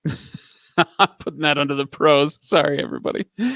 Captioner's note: laughing